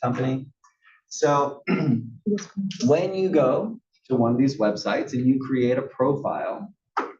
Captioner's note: cough